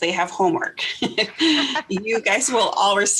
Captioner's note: laugh